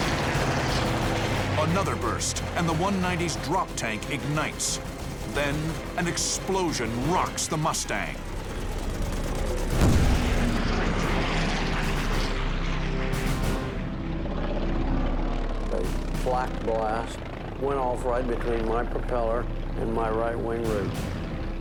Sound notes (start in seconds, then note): 8.1 gunfire; 9.7 boom